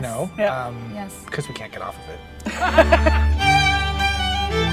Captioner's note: laugh